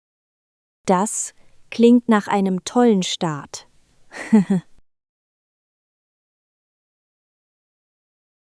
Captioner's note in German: lacht